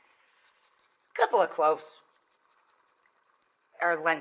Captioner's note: grater rustles